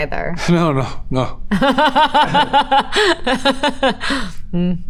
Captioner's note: Elizabeth laughs